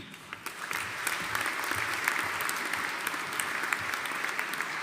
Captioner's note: audience applauding